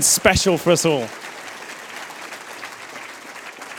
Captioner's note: applause